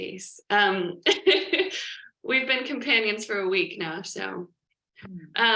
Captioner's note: laughs